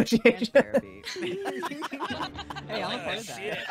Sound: group laughing

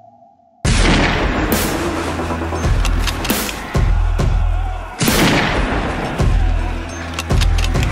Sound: men yelling; rifle fire

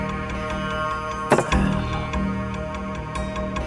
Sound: thud

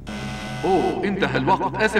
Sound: buzzer sounding

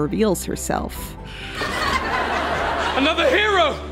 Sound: audience laughter

